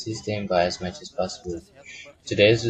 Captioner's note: Vietnamese